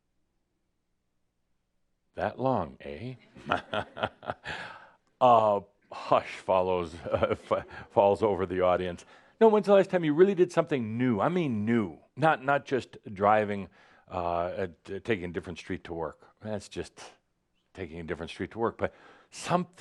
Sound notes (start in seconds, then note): 0.2 short pause; 3.2 chuckles